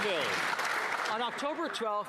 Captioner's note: applause